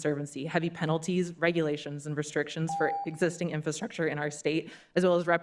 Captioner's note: beep